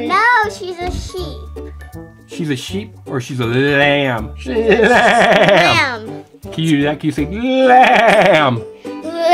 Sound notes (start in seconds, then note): 4.8 Mr. Engineer bleating